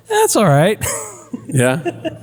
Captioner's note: laugh